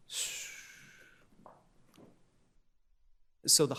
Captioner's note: exhales